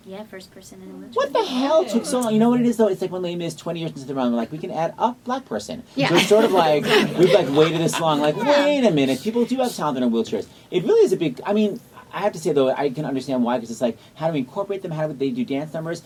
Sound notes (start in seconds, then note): 6.0 laughs; 6.1 laughter